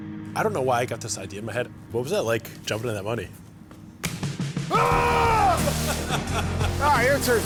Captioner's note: screaming